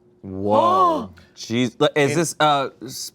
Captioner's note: gasps